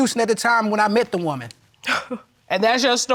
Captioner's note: scoffs